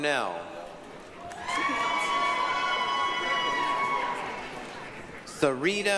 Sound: applause, cheering

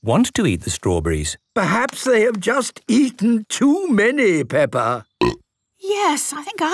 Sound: burp

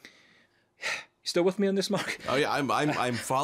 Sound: exhaling sharply; chuckling

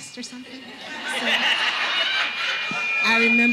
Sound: audience laughing

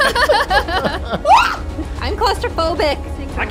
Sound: screams

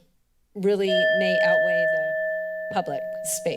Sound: alarm ringing

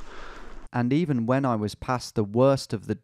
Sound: voiceover

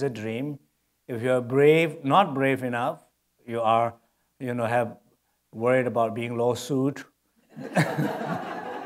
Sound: laughter

